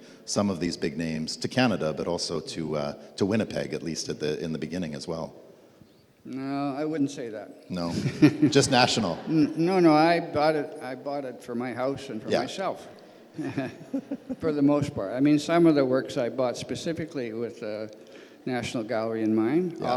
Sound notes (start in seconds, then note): 13.3 laughs